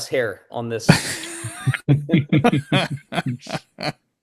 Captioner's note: all laughing